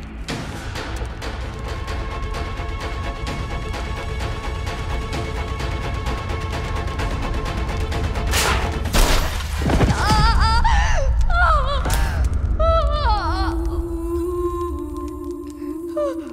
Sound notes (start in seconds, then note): 0.2 suspenseful music playing; 8.9 thud; 9.5 whimpering